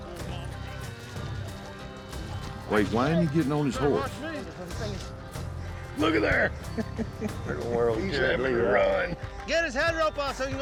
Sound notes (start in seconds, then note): 6.6 laughter